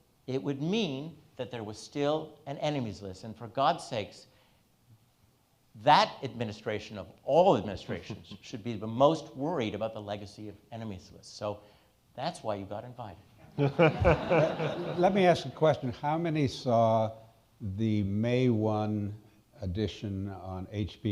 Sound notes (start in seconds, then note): 13.5 all laughing